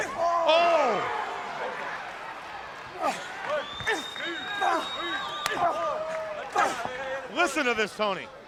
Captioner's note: crowd cheering